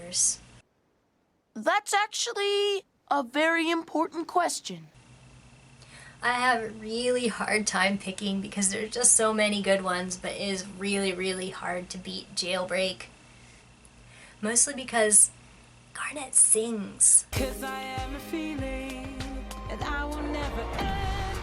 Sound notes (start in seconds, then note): 15.6 whispers